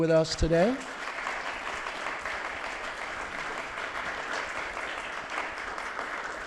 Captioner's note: applause